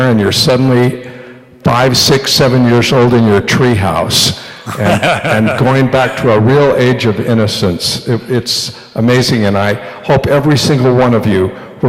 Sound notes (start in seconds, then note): 4.6 laughter